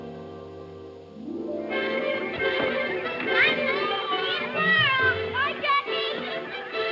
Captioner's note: cheerful music; children yelling